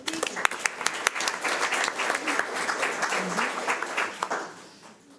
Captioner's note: audience applauds